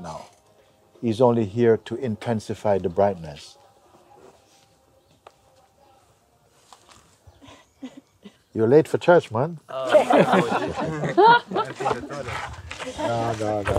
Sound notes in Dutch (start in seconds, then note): 9.8 gelach